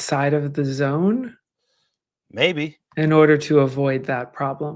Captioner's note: none